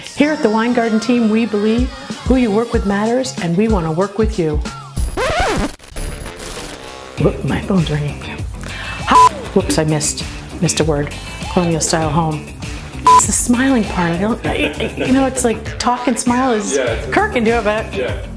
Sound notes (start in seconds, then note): 5.0 record scratch; 9.1 beep; 13.0 beep